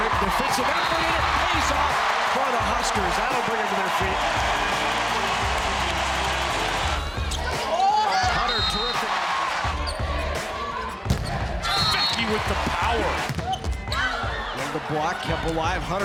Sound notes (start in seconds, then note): 4.4 crowd cheering